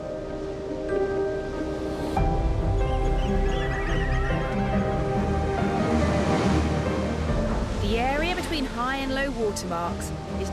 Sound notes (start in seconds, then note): 0.3 majestic music continues; 2.4 birds chirping; 6.2 water crashing